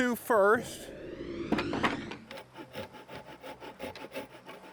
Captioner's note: air whooshes